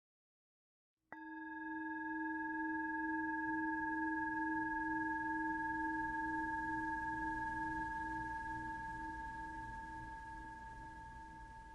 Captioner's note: chime